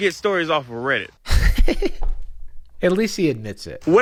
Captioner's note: laughs